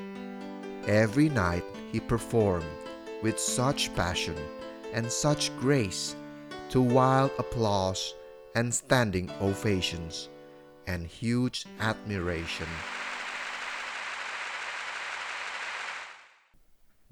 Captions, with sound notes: [serene piano music] [serene piano music] Every night, he performed [serene piano music] with such passion [serene piano music] and such grace [serene piano music] to wild applause [serene piano music] and standing ovations [serene piano music] [serene piano music] and huge admiration [crowd applause]